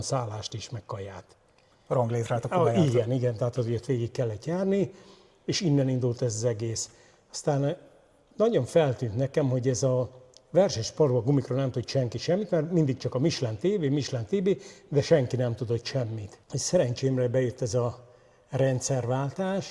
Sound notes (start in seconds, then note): 2.5 clears throat